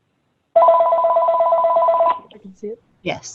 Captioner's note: phone ringing